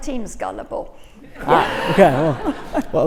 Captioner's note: all laughing